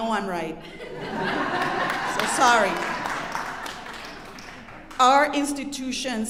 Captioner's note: audience laughing